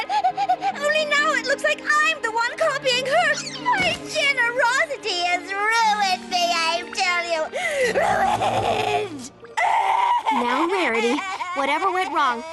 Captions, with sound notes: only now it looks like I'm the one copying her! My generosity has ruined me, I tell you! Ruined! (bawling) Now Rarity, whatever went wrong,